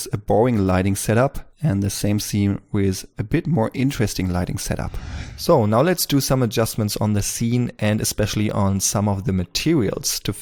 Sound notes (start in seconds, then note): 4.6 whoosh